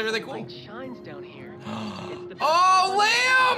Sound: gasps

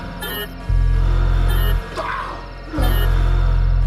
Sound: alarm

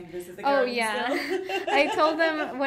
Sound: laughing

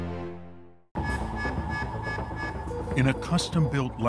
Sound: alarm ringing

